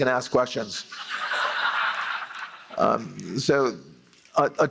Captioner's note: laughter